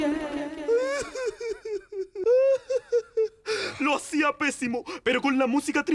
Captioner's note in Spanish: Asesor llorando